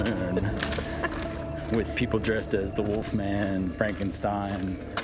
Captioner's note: laughs